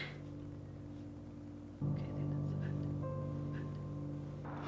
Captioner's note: whispering